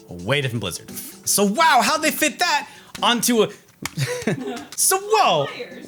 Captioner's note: laughs